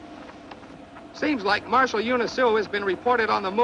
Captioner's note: man On Radio